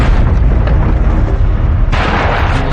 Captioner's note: tireres screecech